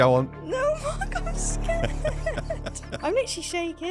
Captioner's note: laughing